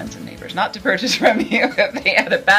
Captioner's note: laughing